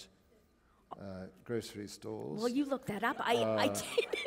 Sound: chuckle

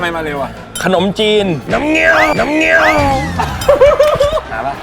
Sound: sound like a motorcycle

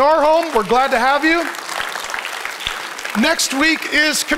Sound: congregation applauds

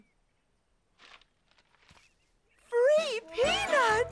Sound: all exclaiming

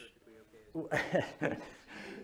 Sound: laughter

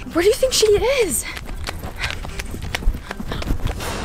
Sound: steps running; suspenseful dramatic music

